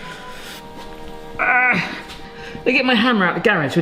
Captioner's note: grunts